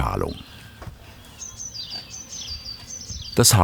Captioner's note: birds chirping